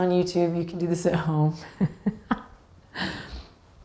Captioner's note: laughs